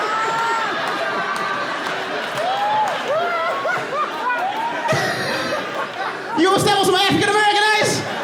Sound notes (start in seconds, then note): 2.0 laughs